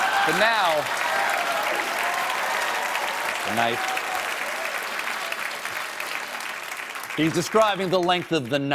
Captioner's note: applause